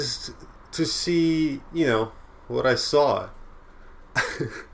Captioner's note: laugh